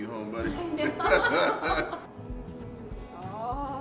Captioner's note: laughing